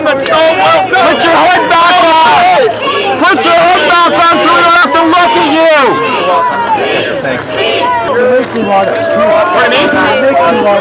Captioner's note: shouting